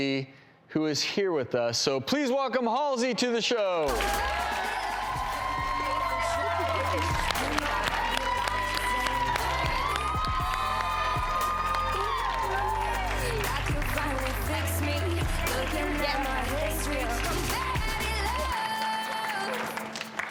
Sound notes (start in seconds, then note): 3.9 audience cheers and claps